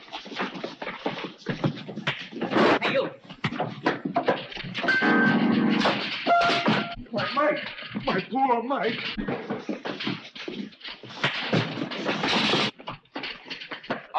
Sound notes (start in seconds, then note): 2.1 blows thudding; 4.8 piano clanging; 4.8 piano thudding; 11.6 blows thudding